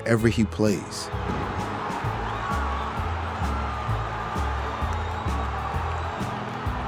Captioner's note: crowd cheers; dramatic music